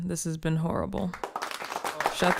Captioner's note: audience applauding